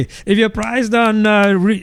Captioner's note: uh